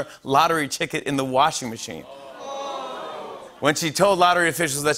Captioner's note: audience groans